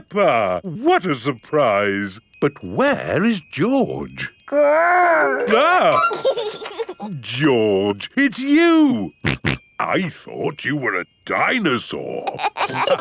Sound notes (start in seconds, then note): 5.0 giggles; 6.2 exclaims; 9.3 snorting